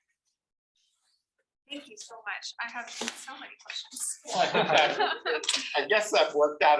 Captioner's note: chuckles